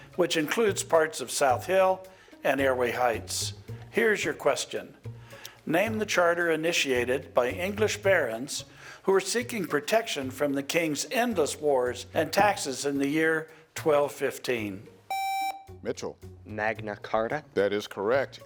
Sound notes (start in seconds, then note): 15.1 contestant beeping